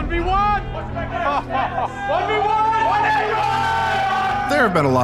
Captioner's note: laughing